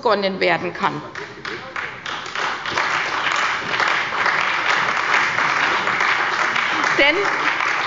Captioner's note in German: Beifall bei der CDU und dem BÜNDNIS 90/DIE GRÜNEN